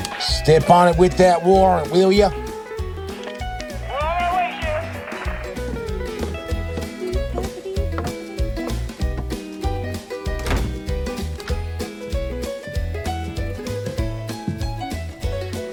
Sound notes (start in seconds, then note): 13.8 steps approaching